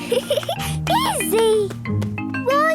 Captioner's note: laughs